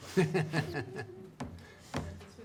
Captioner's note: laughing